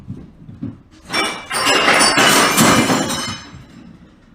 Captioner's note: loud crashing sound